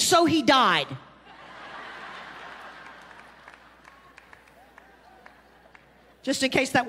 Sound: congregation laughing

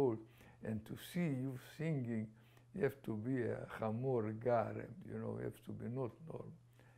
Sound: non-english

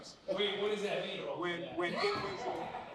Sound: laughter

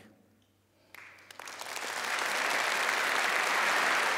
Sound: applause

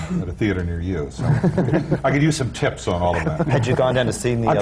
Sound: laughter

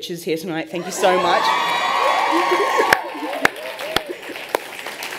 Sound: laughter and cheering

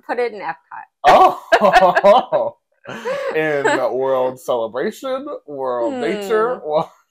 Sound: laugh

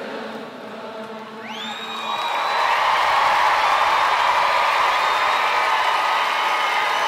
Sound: cheering and applause

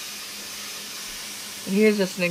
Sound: steam hissing

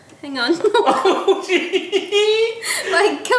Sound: they laugh

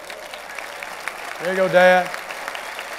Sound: applause

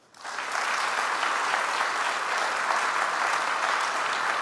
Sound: audience applauds

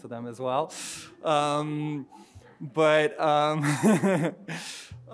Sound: audience chuckling

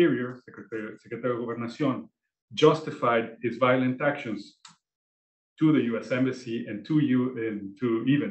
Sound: spanish

